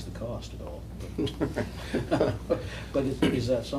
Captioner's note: laughter